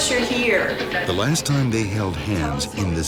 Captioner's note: voiceover